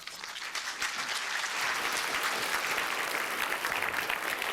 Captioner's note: applause